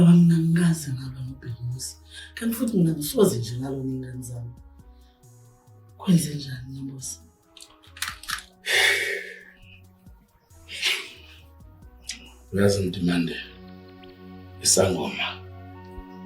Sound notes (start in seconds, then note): 8.6 sigh